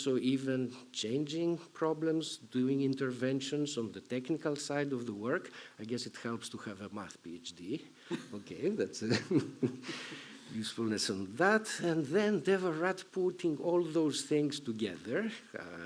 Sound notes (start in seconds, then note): 9.0 chuckles